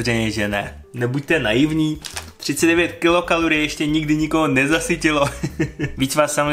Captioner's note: laughter